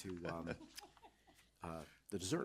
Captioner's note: chuckling